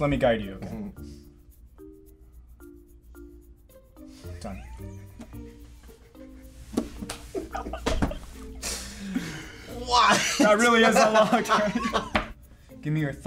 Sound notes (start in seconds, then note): 6.8 both laughing